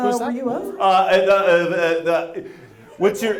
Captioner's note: stammers